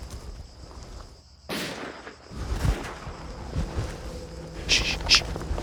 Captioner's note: gunshots in distance